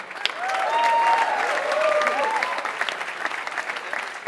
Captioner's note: applause